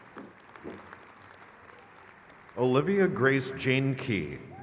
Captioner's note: crowd claps